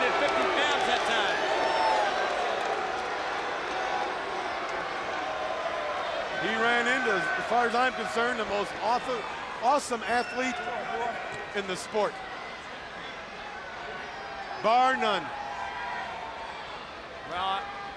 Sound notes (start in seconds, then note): 2.0 crowd cheering; 11.9 crowd chatter